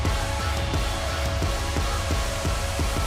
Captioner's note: cheers & applause